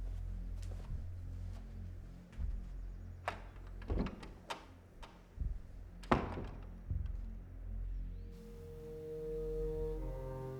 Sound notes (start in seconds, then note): 3.4 brooding music continues; 3.4 door clattering